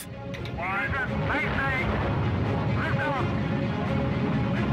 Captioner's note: male voice over radio